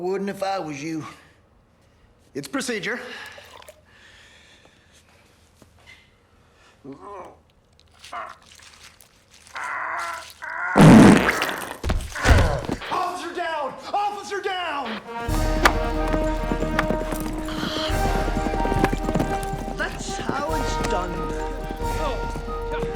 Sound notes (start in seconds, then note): 10.7 grunting; 10.7 ppbbbllltt; 11.8 thud